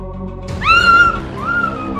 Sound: screams

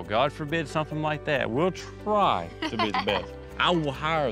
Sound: laughs

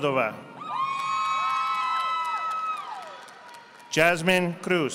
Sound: audience applauding

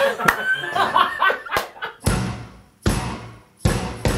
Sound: laughing; upbeat music

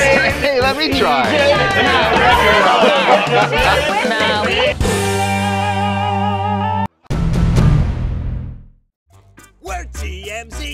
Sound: laughter

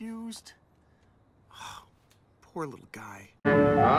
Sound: sighs

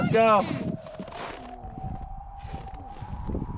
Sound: wind howling

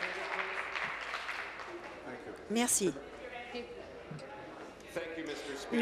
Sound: applause

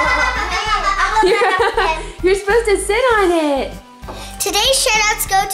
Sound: laughing; children laughing

